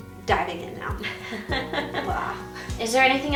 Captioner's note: laughing